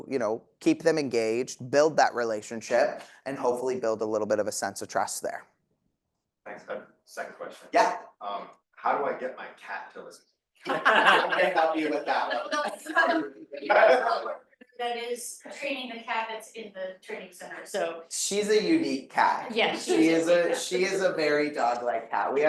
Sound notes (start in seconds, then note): 12.5 audience laughing